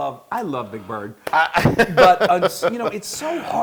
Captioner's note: laugh